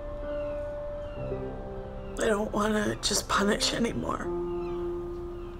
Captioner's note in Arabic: باكية